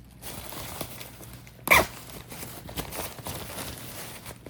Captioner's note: zipper sound and tent rustling